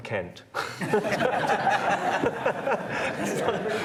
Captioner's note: laughter